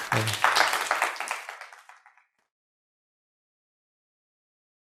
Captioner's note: applause